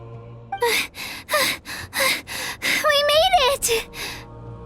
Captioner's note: panting